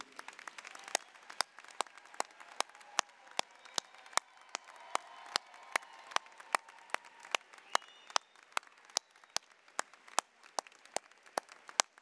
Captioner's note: applause, cheering